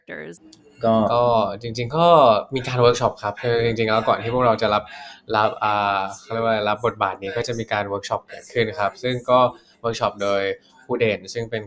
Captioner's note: answering in Thai